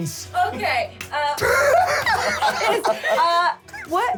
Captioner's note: laughs